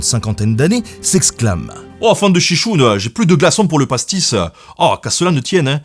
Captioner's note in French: avec l’accent